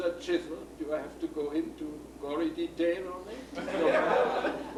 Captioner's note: laughs